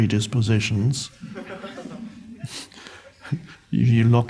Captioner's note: crowd laughs